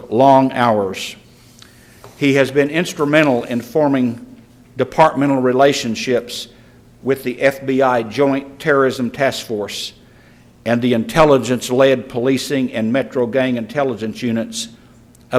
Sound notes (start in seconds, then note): none